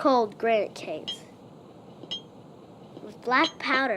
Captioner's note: train spike hammering